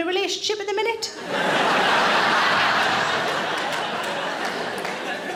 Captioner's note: audience laughing